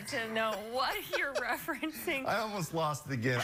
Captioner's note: laughter